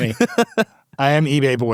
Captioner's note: laughs